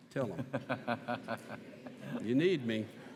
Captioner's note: laughs